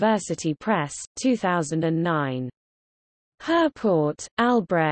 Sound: in German

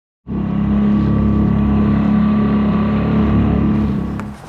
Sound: boat engine roaring

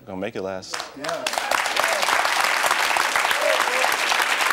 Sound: applause

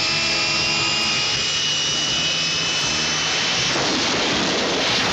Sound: loud crash

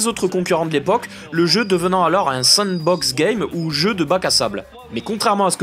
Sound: in french

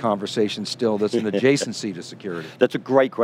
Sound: chuckles

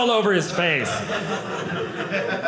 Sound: audience laughing

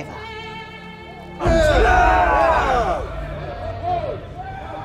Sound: angry crowd roars

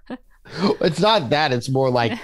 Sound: laughs

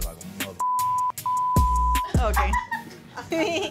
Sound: beeping; laughing

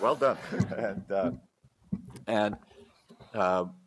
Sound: laughter

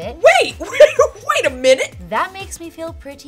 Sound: laughs

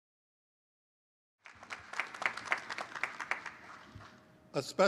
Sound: applause

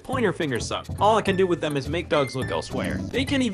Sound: dog growls at game

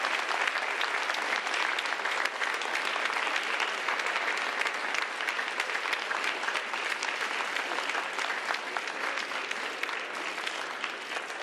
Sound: applause

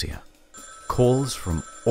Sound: phone ringing

